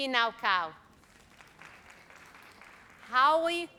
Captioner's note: audience applauds